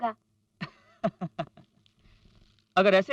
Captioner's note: laughs